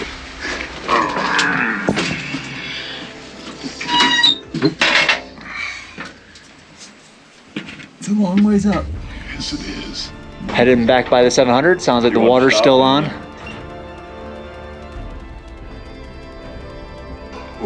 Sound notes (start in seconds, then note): 1.0 groans; 3.8 gate squeaks